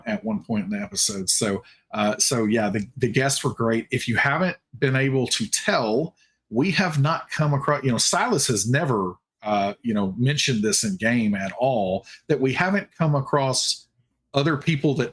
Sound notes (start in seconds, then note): none